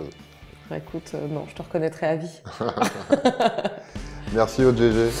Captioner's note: laughs